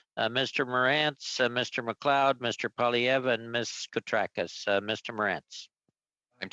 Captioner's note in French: voix de l'interprète